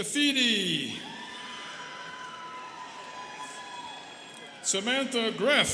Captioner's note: students cheering